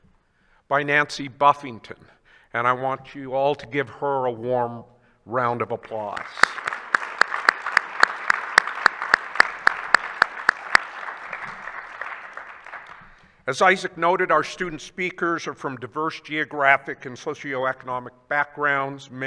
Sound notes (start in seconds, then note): 5.8 attendees applauding